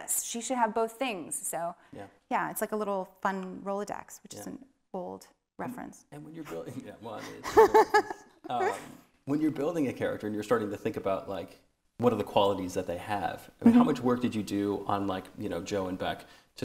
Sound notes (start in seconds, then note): 6.5 laughing